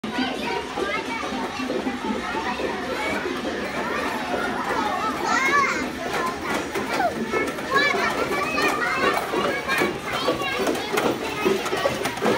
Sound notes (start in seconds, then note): 0.0 natural sound - children talking and laughing